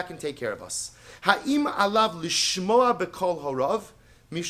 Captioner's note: Hebrew